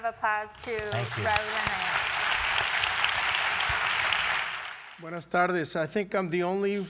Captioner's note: applause